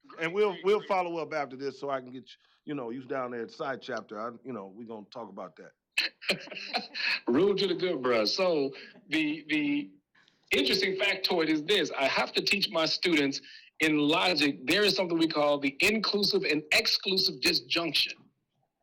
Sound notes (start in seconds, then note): 6.0 laughter